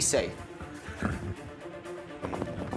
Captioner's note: horse blusters